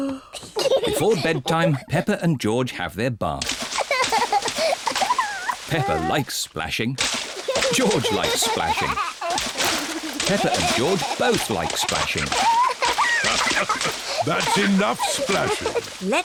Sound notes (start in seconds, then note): 0.0 yawns; 3.5 giggles; 9.3 giggles; 13.1 laughs